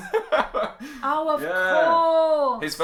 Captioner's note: laughs